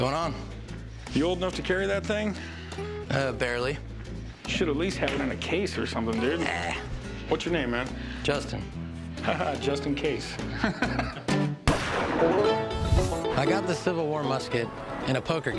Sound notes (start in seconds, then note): 10.4 laughs; 11.6 gunshot